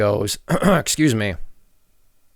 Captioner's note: clears throat